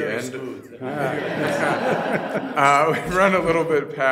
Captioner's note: laughing